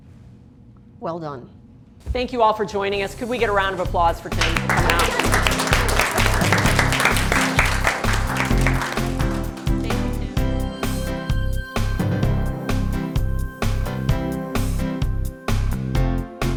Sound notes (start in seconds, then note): 4.2 applause